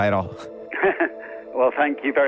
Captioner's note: giggle